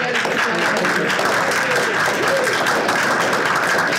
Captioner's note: audience applauding